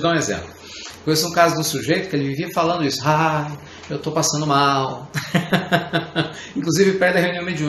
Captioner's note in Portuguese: Risos